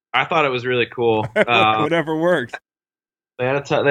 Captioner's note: laughs